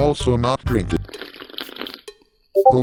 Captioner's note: gulp noise; sipping noises